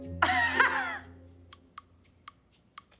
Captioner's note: laughing